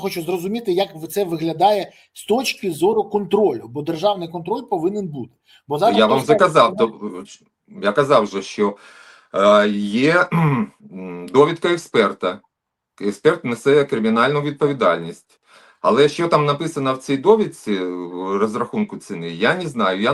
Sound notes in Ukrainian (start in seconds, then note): 10.2 прочищення горла